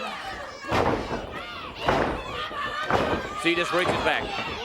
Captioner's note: crowd chatter